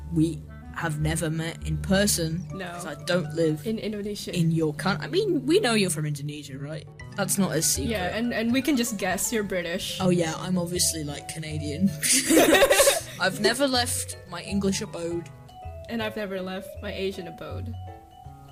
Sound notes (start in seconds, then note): 12.0 laughing